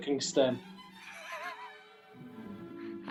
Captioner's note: chuckling